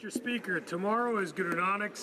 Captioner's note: speaking French